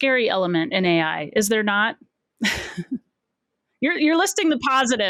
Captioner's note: chuckles